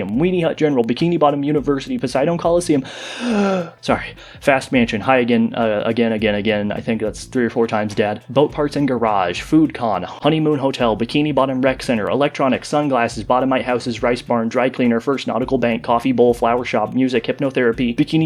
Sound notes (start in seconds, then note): 2.8 deep breath